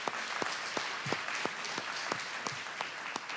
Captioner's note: applause